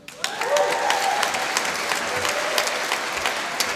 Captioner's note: applause